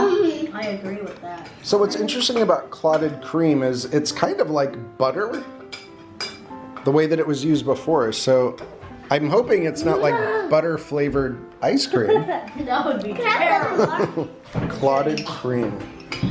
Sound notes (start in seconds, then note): 13.7 chuckling